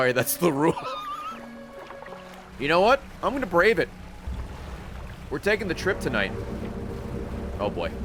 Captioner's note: laughs